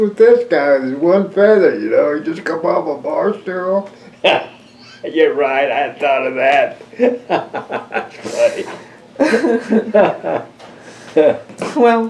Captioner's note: laughs